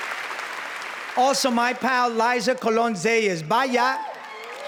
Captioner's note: spanish; applause